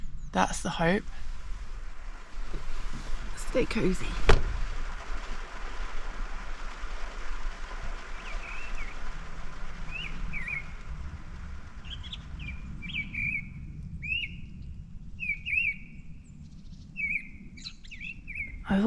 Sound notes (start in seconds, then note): 4.7 rain; 12.0 birdsong